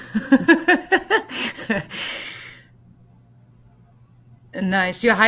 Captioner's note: laughs